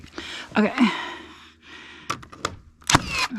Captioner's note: exertive grunts and heavy breathing